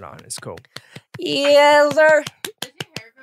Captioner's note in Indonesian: clapping